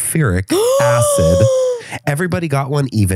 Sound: gasps

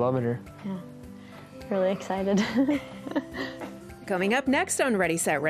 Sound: chuckles

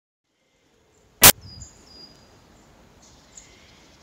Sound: birds chirping

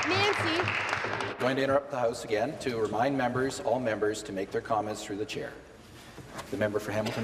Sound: applause

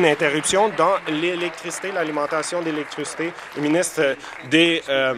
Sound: applause

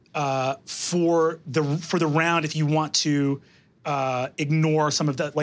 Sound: none

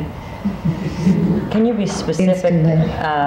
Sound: crowd murmurs

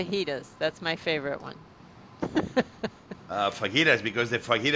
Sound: laughs

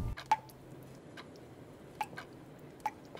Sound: ticking and dripping

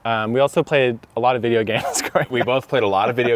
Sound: laughing

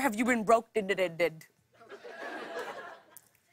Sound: laughter

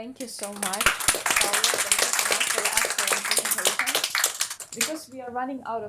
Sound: audience clapping; clapping drowns speaker

